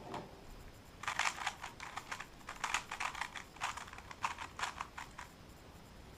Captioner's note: cube noises